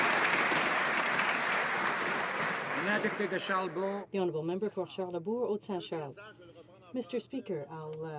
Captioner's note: some Applause